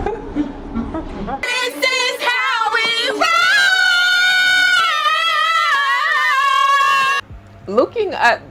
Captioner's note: screaming